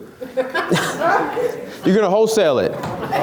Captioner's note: laughs